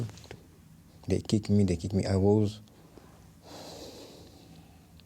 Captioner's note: sighs